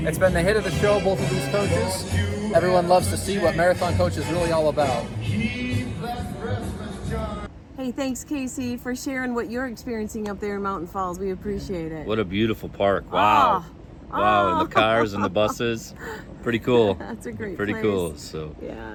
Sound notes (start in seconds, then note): 14.1 laughs